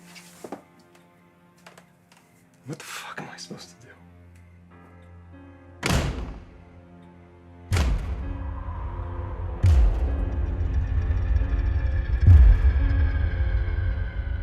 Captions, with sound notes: What the fuck am I supposed to do? (door slamming) (wind howling) (ominous orchestral music)